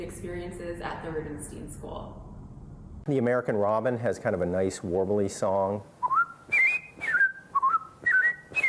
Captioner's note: whistles